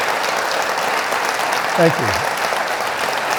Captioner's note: audience cheering